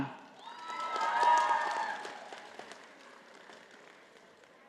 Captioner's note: audience applauding